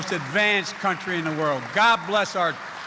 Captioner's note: applause